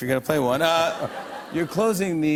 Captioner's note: laughter